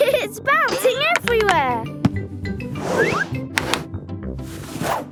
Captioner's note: laughing